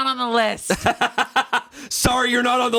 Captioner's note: laughs